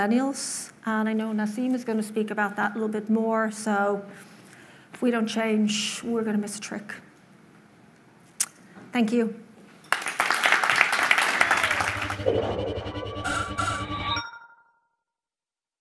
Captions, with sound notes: And I know Naseem is going to speak about that a little bit more. So, if we don't change, we're gonna miss a trick. Thank you. (applause) (digital tones)